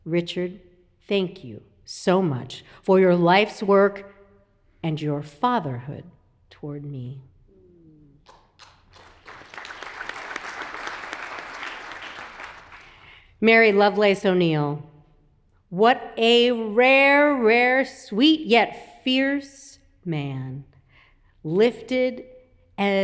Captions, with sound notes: Richard, thank you so much for your life's work and your fatherhood toward me." (audience applauds) Mary Lovelace O'Neal, "What a rare, rare, sweet yet fierce man, lifted as he climbed,